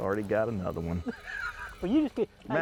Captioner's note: laughs